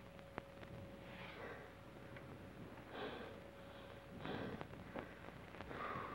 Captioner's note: Trask breathes heavily